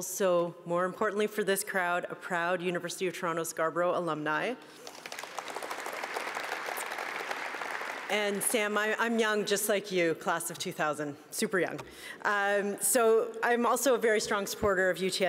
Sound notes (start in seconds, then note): 7.5 applause